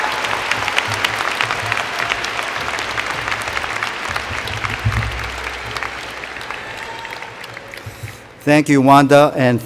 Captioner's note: cheers and Applause